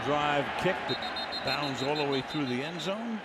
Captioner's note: whistle blows